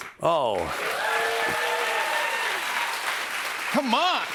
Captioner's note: cheers and applause